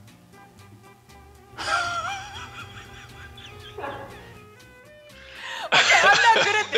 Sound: laughs

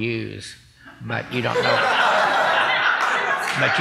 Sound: laughing

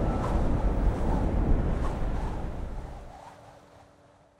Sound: air whooshing

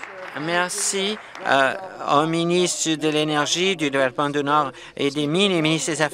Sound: applause

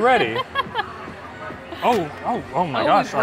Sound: laughs

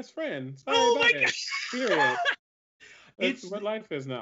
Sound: laugh

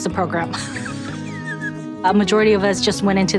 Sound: laughs

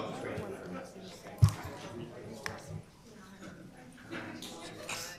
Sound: group chatter

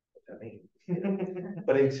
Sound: chuckling

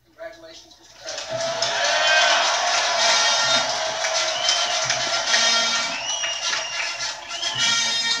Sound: applause, cheering, and Music

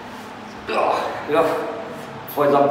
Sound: grunting

